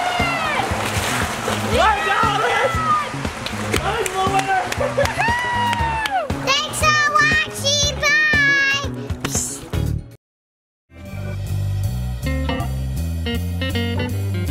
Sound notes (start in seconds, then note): 3.7 claps and cheers; 9.2 smacking sound; 11.0 cheerful jazz music